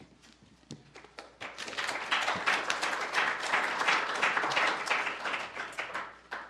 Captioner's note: applause